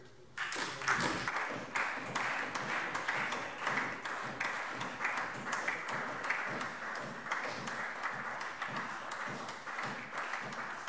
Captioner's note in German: Beifall SPD und DIE LINKE